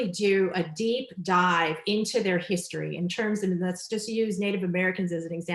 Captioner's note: none